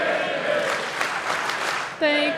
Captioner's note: audience applauding